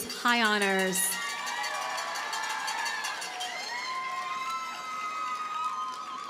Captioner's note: audience cheers and applauds